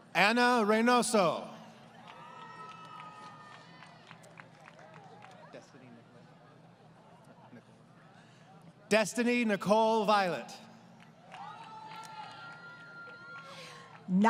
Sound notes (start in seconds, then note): 1.9 applause; 10.9 applause